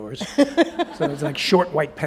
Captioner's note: laughter